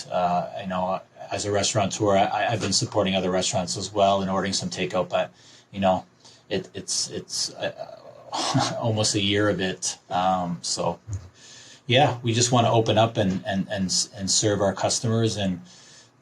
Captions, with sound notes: Uh,I know as a restaurateur, I — I’ve been supporting other restaurants as well and ordering some take-out but... you know, it— it... it’s uh... (laughs) almost a year of it, uhm, so... Yeah. We just want to open up and and, and serve our customers and